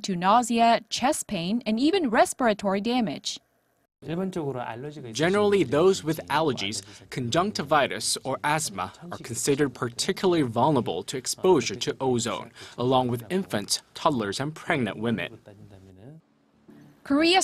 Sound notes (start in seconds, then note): 4.5 Korean